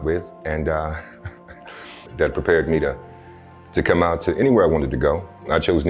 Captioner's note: laughter